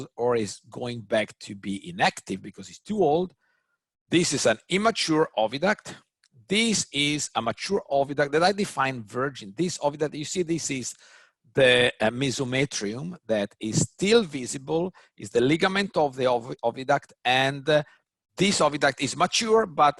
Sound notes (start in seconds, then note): none